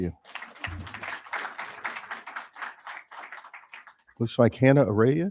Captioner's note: crowd applauding